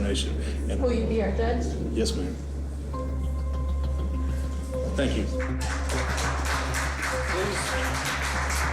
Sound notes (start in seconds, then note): 5.2 applause